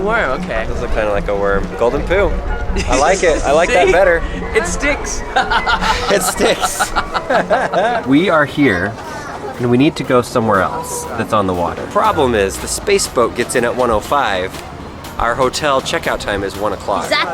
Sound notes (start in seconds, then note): 5.3 laughter